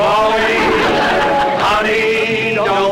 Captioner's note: whistle Blowing